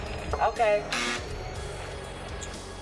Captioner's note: buzz